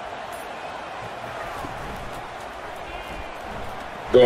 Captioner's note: crowd cheering